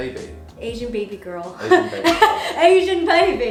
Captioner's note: laughs